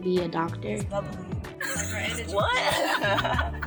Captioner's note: indistinct conversation; car occupants laughing